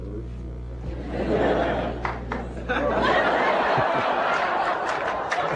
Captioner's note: laughter